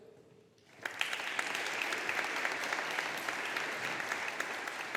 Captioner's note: audience applauding